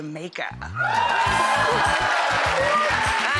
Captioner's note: audience cheering